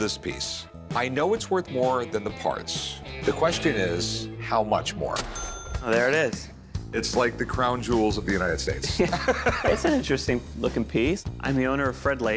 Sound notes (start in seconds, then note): 8.8 laughter